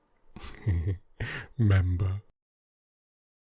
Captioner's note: chuckle